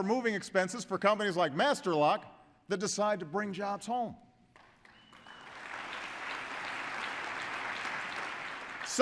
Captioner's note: applause